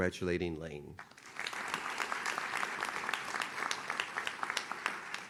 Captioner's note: audience claps